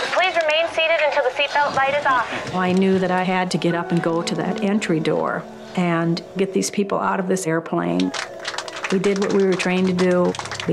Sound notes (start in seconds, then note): 8.0 all clapping